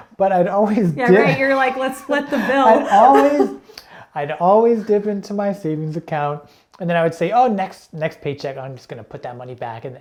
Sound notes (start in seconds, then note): 2.2 chuckling